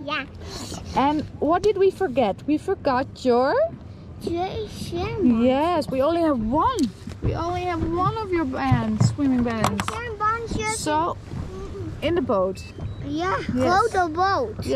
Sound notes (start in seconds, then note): 4.4 speaking Dutch; 10.4 speaking Dutch